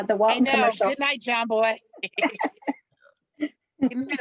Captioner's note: laughs